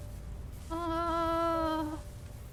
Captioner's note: groans